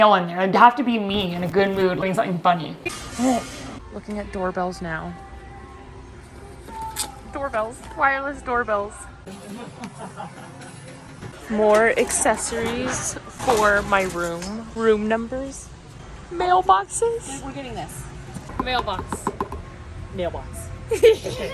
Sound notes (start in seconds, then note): 6.2 plastic rustling; 9.3 person laughing; 18.4 stick tapping; 20.9 both giggles